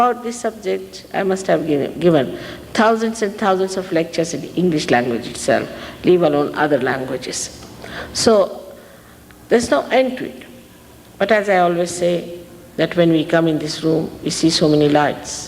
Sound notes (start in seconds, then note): none